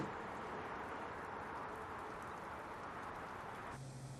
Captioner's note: none